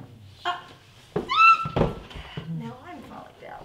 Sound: Tara squeals

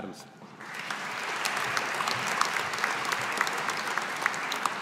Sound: audience applauding

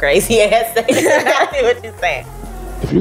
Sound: laughing

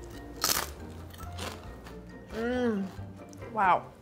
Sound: bacon crunching

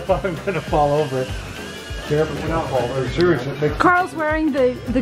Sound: drone whirs

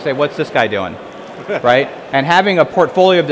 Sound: laughing

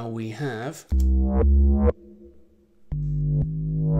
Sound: electronic tones

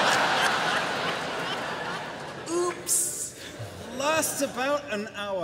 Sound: laughter

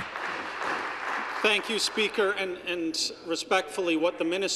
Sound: some Applause

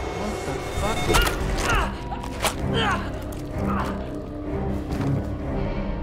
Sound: suspenseful synthesizer music; groaning; loud squish

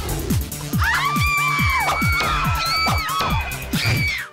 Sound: electronic music; screaming

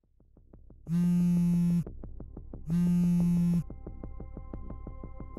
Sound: phone vibration

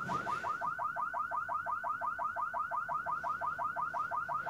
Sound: car alarm blaring

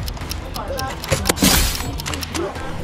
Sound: gunshot firing

